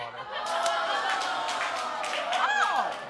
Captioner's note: audience cheering